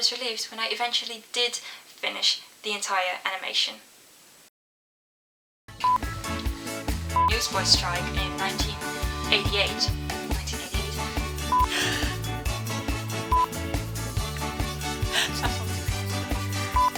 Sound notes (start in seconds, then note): 5.8 fun upbeat music; 11.6 gasp* sound; 15.0 laughing